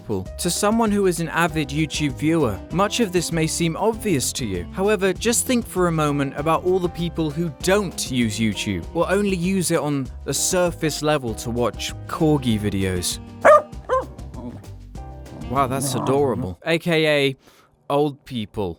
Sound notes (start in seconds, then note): 13.4 Argy barks